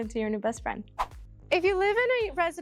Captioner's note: whoosh